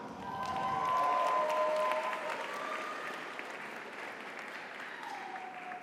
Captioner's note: audience cheers; audience applauds